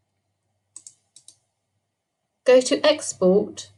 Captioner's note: mouse clicking